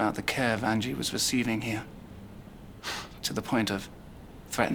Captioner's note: none